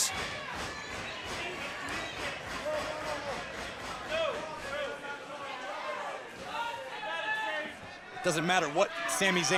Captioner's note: crowd chatter